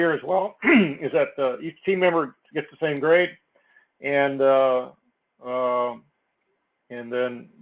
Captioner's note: cough